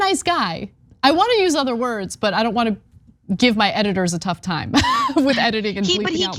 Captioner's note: laugh